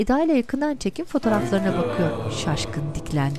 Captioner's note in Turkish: Efekt sesi